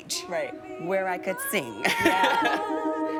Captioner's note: laughs